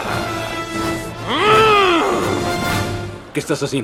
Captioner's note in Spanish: Rugido